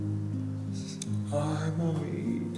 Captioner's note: kiss